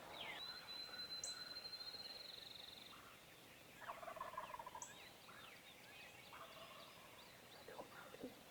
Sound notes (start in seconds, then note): 3.9 turkey gobbles